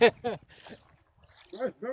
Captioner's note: laughing